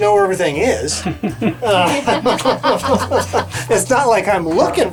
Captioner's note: laughs